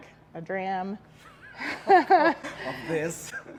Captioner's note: both laughing